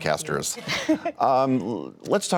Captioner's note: laughter